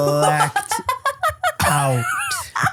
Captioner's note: laughs